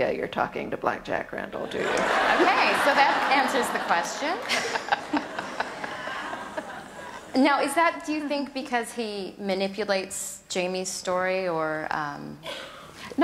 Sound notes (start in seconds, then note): 1.8 audience laughter